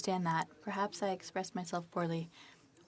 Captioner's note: speaking French